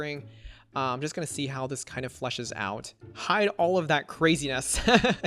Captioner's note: laughs